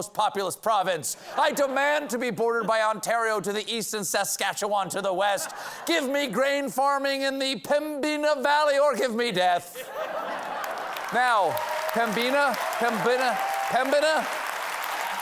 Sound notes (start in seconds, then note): 9.7 laughter; 10.4 applause